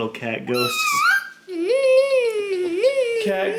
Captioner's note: baby mumbling